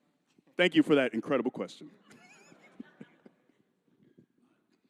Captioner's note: laughing